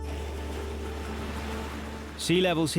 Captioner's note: waves crashing